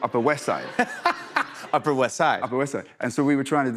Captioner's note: laughs